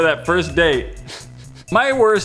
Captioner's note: awkward chuckle